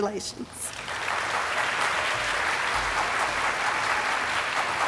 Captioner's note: audience applauding